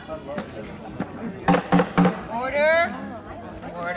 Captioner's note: banging gavel